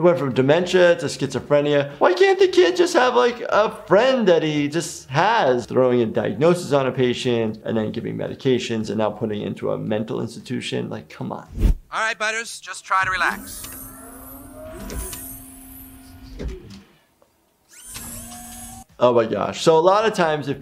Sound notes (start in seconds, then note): 13.0 machine whirling